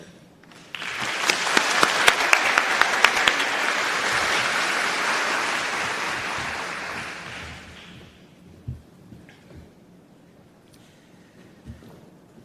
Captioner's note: applause